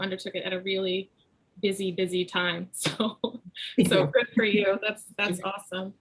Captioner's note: laughs